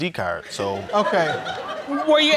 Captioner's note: audience laughs